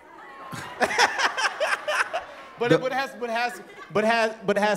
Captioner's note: laughs